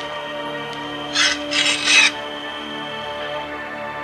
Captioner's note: metal grind